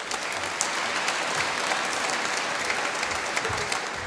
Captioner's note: applause